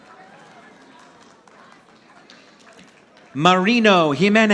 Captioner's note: audience applauding